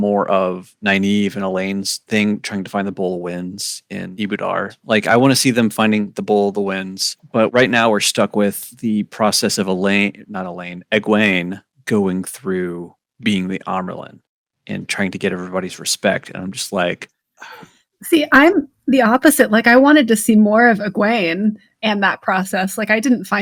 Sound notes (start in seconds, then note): 17.4 sighs